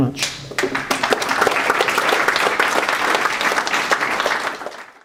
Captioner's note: applause